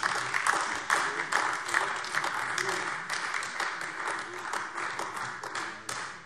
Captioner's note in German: Beifall AfD